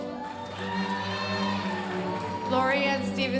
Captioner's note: audience cheering and applauding